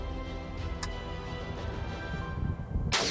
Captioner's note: tense suspenseful music continues; rifle safety clicking; rifle firing